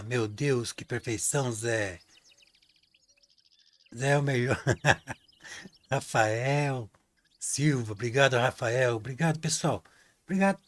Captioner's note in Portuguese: risadas